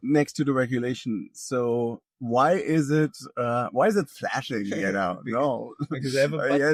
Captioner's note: laughing